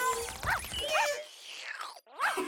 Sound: Lulu slurps; giggling

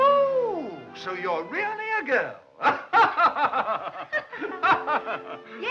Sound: laughs

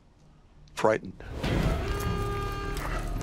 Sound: warning siren blaring

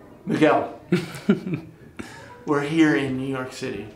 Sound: laughs

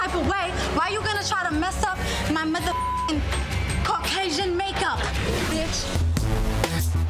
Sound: beep; upbeat music

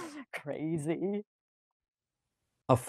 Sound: chuckles

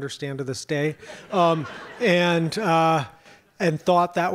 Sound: audience laughs

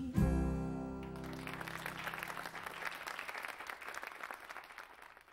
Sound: audience applauding

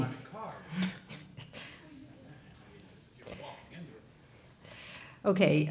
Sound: speaking off mic

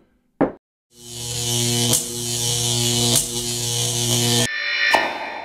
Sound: electricity buzzing

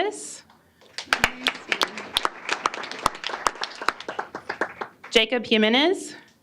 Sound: applause

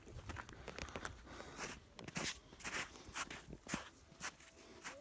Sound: snow crunching

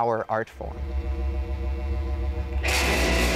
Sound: amplifier reverb buzzing; crashing

